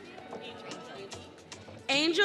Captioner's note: audience cheering